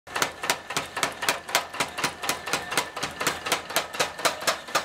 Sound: rhythmic hammering and metal clanking

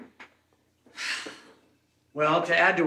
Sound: Anna sighs

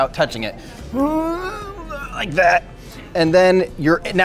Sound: groaning

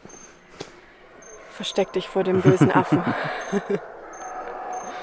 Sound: laughter

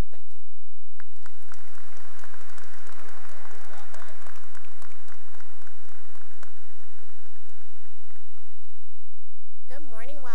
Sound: cheering and applause

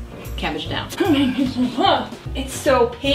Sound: grunts

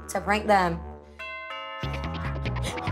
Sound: doorbell ringing

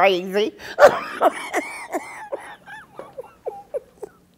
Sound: laughter

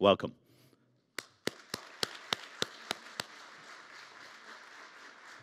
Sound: audience applauding

